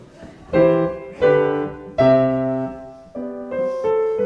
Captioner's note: laughter